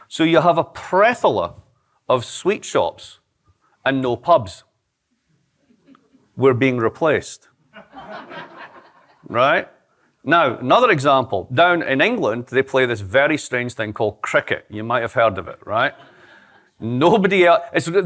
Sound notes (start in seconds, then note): 7.7 laughter